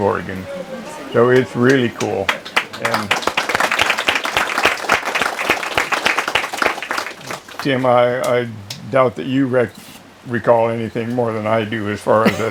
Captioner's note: applause